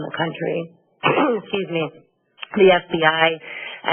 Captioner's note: clears throat